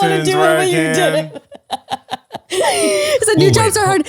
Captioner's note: laughing